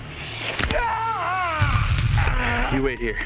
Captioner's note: arm snaps; Shepherd screams